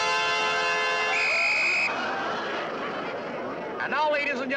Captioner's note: whistle shrills